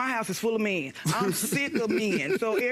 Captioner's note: laughing